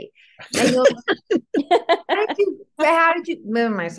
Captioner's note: panel laughs